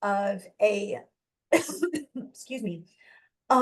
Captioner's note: coughs